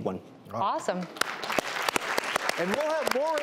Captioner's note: audience applause